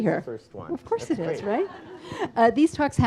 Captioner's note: audience laughs